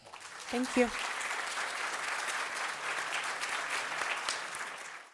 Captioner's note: audience applauding